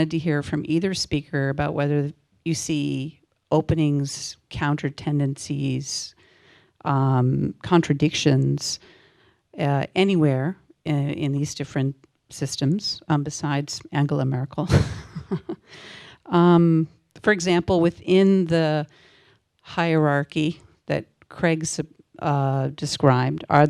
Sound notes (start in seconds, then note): 14.8 laugh